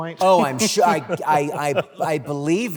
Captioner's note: laughter